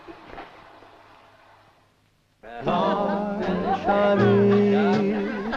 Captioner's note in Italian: rumore dello sciacquone